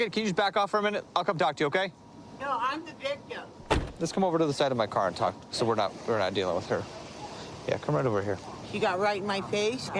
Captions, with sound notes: Can you just back off for a minute? I'll come talk to you, okay? -No, I'm the victim. -(car door closes) -Let's come over to the side of my car and talk. so we're not-- we're not dealing with her. Yeah, come right over here.. -She got right in my face,